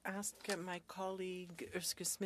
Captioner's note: speaking French